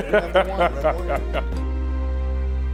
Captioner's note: laughter